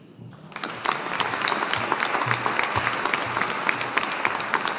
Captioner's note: audience applauding